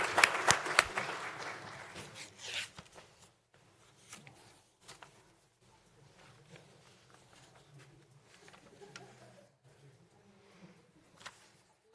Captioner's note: applause